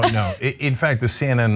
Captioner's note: laugh